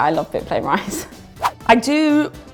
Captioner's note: whoosh